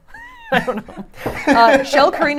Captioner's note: group laughs